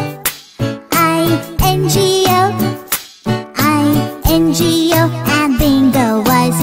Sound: clap; clap

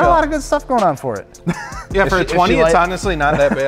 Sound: laughs

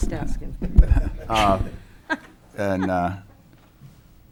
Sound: laughs

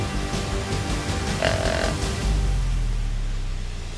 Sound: buck grunt

